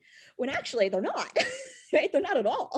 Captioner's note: laughs